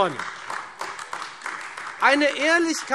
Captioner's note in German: Beifall Freie Demokraten und AfD